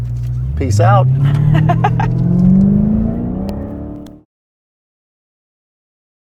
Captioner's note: car engine